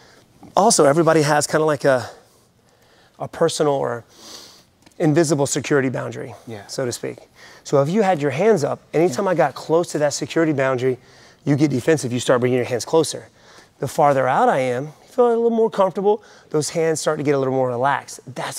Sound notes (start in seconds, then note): none